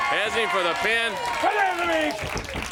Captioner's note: crowd cheering